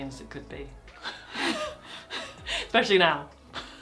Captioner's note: laugh